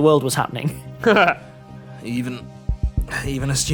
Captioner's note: laughs